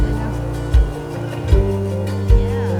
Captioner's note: laughing